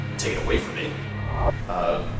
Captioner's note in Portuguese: Distorção de áudio